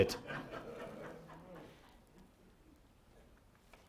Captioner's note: laughter